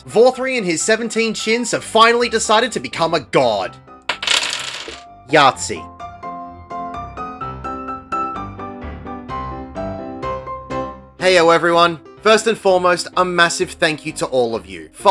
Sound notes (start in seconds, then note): 4.1 dice clattering on a table